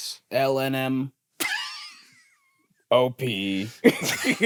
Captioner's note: laughs